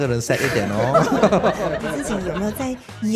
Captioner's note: laughs